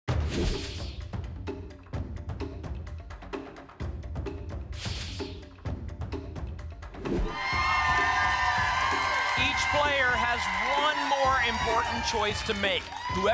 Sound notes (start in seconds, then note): 7.3 applause and cheering